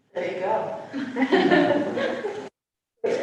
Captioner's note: laughter